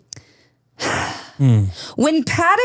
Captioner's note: laughs; sighs